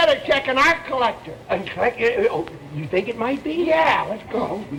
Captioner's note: stuttering